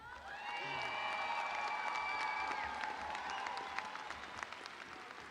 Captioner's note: audience applauding